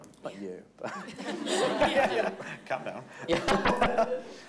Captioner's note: everyone laughing